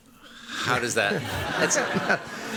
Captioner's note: laughter